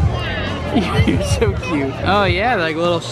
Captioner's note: laughs